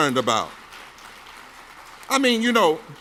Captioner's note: audience claps